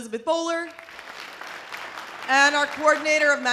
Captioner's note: audience applause